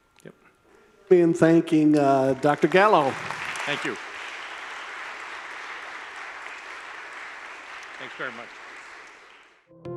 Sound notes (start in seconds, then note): 1.6 audience applauds